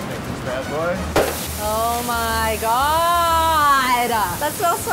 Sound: sizzling

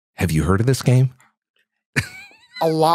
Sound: chuckles

